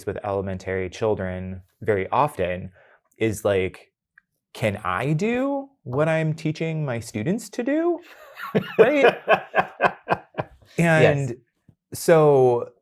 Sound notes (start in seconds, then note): 8.1 guy laughing